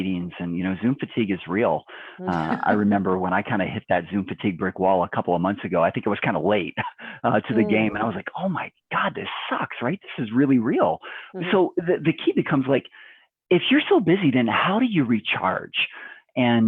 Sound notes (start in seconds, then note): 2.2 laughs; 7.3 chuckles